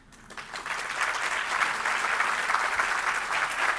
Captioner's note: applause